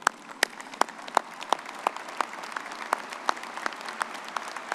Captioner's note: all clapping